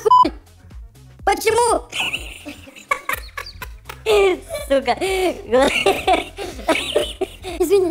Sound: laughs his furry ass out

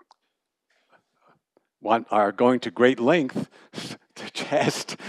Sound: laughter

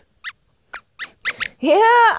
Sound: squeaks hiccups and squeaks

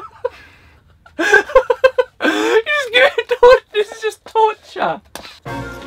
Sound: laughs

